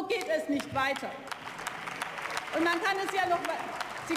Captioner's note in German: Beifall